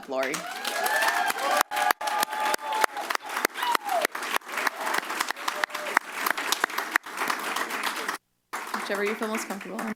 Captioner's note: applause; cheers